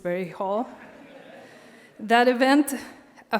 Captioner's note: audience laughs